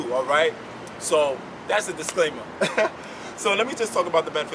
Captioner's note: laughs